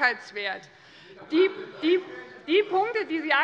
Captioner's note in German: Zurufe von der SPD